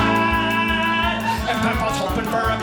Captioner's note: audience laughing